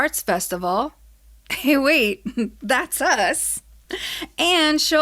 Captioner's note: laughs